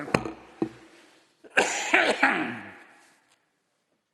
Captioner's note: coughing